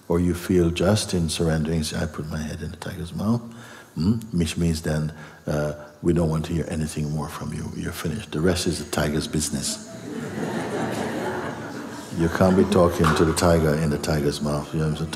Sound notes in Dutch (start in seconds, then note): 9.8 gelach